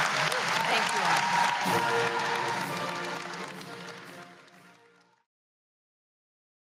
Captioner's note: applause